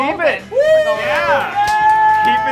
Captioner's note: cheers